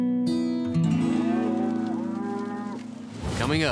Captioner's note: mooing